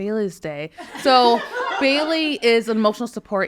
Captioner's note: people laughing